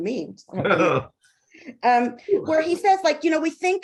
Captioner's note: chuckling